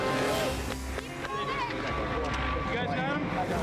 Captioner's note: dramatic music; onlooker clapping